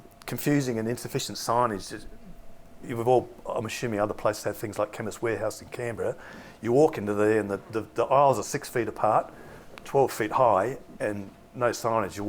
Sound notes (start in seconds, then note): none